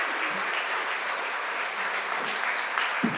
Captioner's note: applause